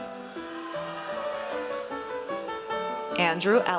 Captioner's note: audience cheers